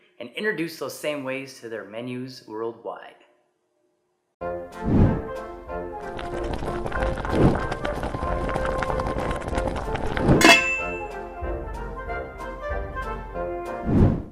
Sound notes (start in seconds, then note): 4.4 cheerful music; 6.0 water boiling; 10.4 pot lid clinks